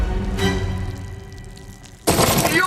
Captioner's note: liquid dribbling